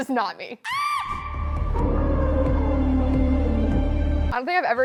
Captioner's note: squeals